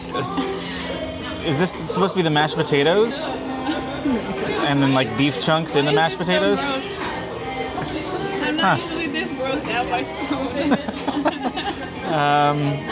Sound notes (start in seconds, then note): 10.4 laugh